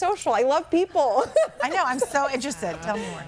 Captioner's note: laughs